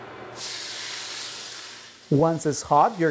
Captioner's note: oil sizzling